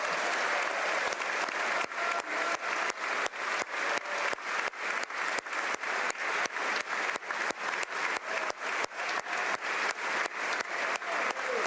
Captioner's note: applause